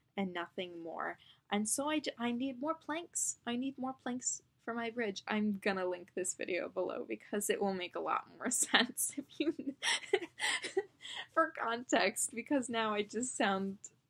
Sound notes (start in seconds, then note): 9.4 laughs